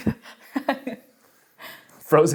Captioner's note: laughs